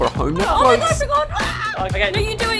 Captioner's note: screams